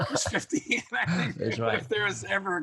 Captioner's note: both laughing